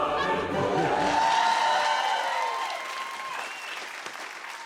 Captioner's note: cheers and applause